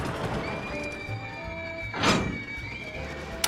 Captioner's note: riders screaming